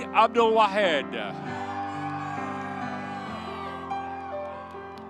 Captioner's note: audience cheering